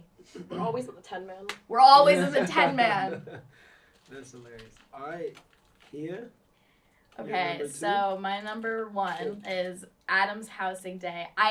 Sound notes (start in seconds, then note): 1.8 laughs